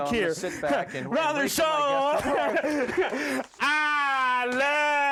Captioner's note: laughing